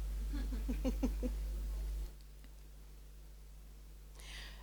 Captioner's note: interviewer laughs